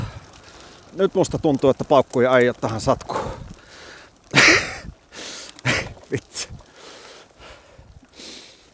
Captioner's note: nervous laughter